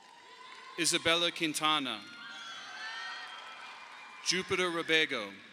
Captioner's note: audience applauding